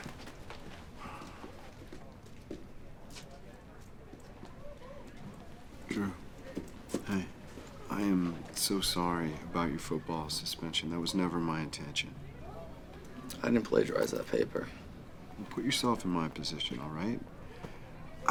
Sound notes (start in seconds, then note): 1.0 Jeff sighs; 2.8 students chattering